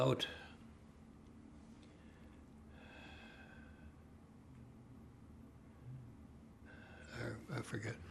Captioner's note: pauses 6 seconds